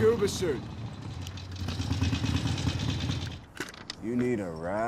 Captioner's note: motorcycle running